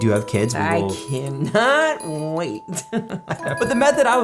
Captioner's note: sinister laughing